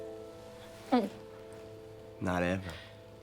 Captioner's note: dramatic orchestral music; gulps